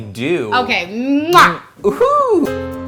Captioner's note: lips smack